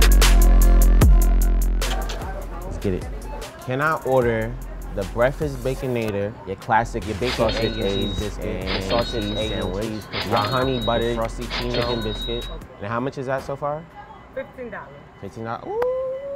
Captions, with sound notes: (people chattering) Let's get it. Can I order the breakfast Baconator, your classic, your bacon and eggs, sausages and cheese biscuit, the sausage egg and cheese, and cheese sandwich, the honey butter, the Frosty-ccino, chicken biscuit. And how much is that so far? - $15. - 15, ooh!